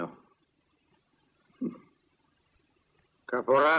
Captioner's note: chuckles